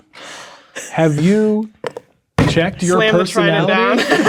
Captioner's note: hits table; players laughing